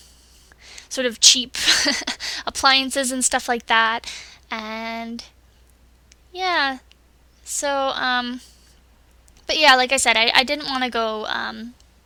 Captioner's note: laughs